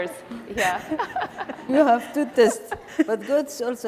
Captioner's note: laughing